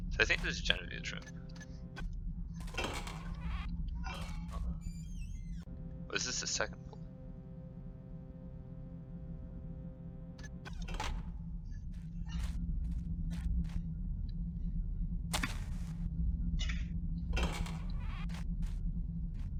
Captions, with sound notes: So I think this is Jenivere's room. *Guard whistling.* ...or is this the second floor? *Somewhat loud crunch.*